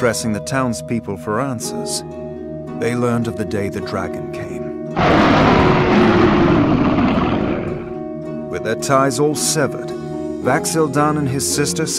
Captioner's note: roar